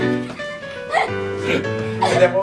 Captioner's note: laughing